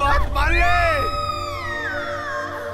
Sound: loud Scream

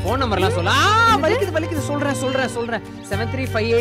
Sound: abbas shouting

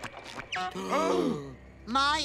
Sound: gasping

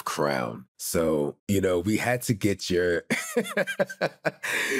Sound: chuckles

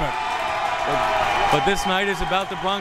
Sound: crowd members cheering

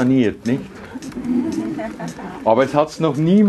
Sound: audience giggles

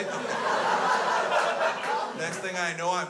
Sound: crowd laughs

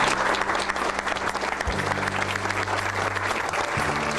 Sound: hand clapping

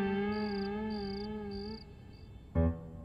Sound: crickets chirping

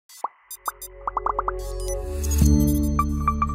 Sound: digital beeping

